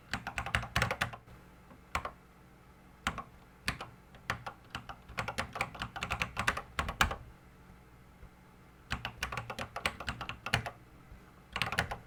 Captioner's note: typing on a Commodore 64 keyboard